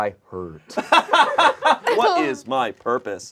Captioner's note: group laughs